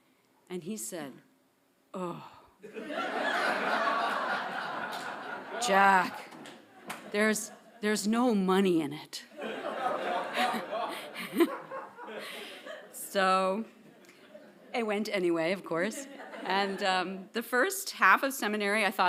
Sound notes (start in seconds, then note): 2.6 audience laughing; 9.4 chuckling